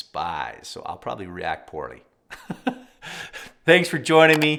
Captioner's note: chuckles